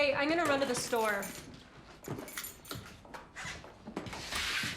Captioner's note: keys jingling